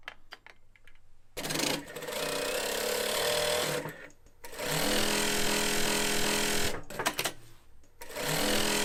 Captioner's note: cloth stitching